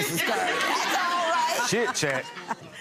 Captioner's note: audience laughing